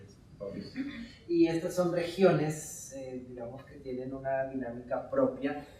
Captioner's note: speaking in Spanish